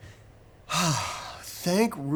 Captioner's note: Chip sighs